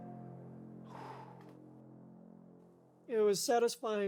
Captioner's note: exhales deeply